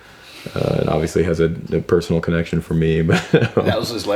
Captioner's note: laughs